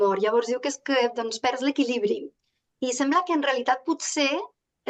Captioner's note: speaking in Catalan